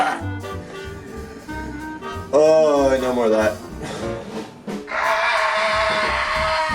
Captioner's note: screaming even more